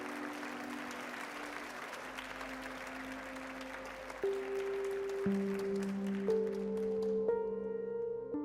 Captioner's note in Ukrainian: оплески